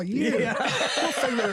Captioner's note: others laugh